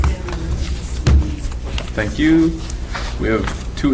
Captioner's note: woman mumbling